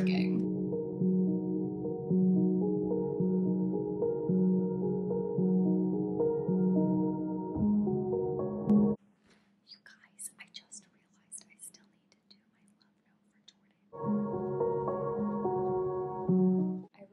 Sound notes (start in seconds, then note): 9.2 whispering